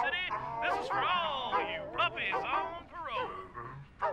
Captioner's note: dogs barking melody